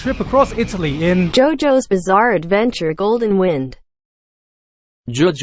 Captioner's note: Google translate's American accent